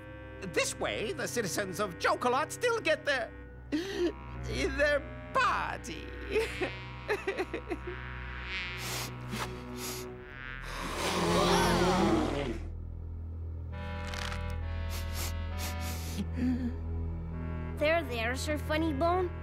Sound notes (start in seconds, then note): 8.8 sniffles; 10.3 blows his nose